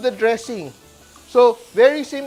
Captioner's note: sizzles